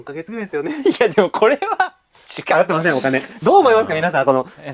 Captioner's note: laughs